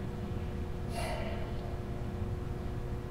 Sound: Rajbir sighs

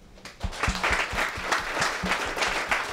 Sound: applause

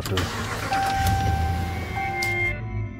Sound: car engine revving; tense suspenseful music

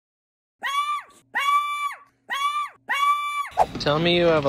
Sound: dog yelping; laughs

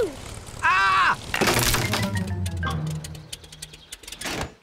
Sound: crunching

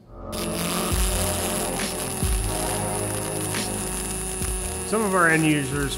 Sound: invigorating music; welding machine buzzing

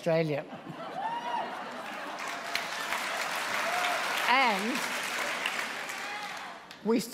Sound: applause

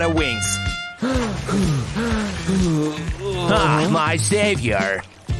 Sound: puffs

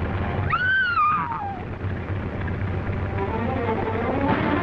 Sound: Jean screaming; dramatic music

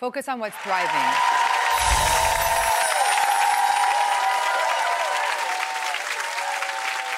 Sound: applauding; twinkling

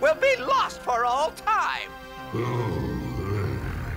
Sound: grumbles

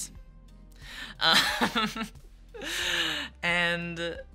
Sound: laughs

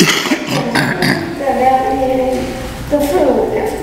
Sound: cough drowns out speaker

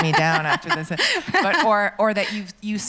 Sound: laughs

